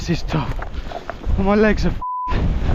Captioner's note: beep